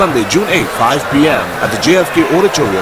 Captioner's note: wild applause and cheering for 22 seconds